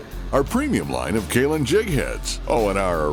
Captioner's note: voiceover